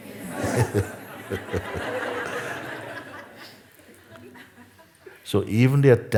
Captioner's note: laughter